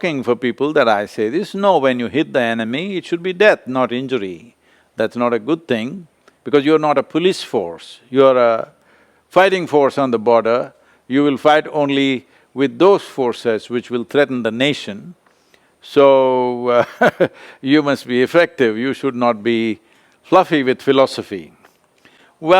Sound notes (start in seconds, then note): 16.9 laughs